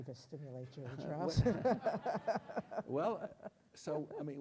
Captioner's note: audience laughs